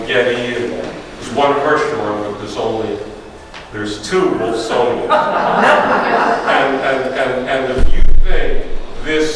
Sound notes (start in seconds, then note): 5.0 audience laughs